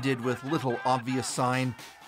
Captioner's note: chanting